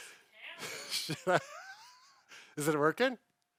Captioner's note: laughs